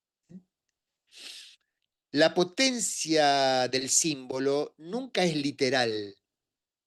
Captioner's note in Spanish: resoplido